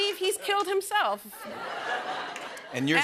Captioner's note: laughter